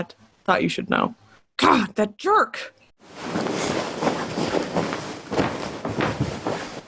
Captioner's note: clothes rustle